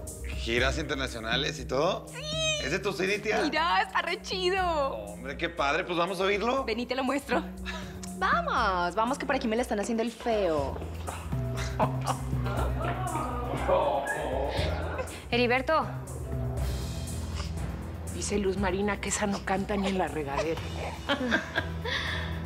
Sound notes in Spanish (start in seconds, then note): 13.7 Risas; 22.2 Risas